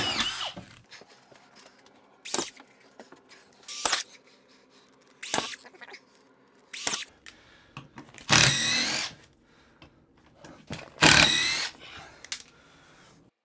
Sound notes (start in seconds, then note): 2.4 machine buzzing